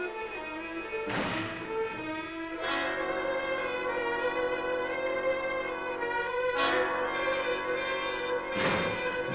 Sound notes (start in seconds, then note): 1.1 loud crash; 3.6 dramatic music